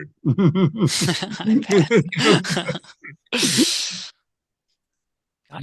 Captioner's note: both laughing